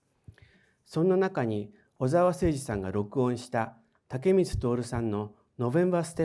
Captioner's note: speaking in foreign language